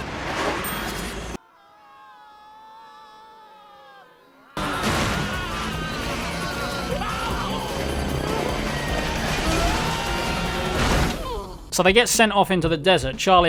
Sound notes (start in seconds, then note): 1.4 distant screaming; 4.9 more screaming